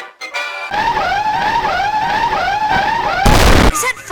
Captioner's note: very annoying siren